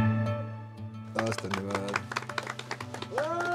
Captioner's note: applause